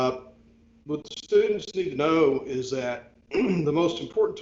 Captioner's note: clears throat